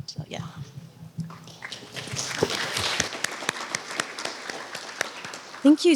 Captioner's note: applause